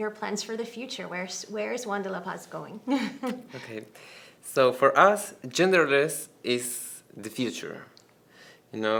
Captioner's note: laughs